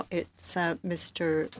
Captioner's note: speaking French